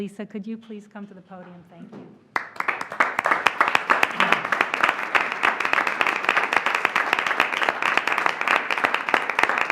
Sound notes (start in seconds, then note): 6.1 applause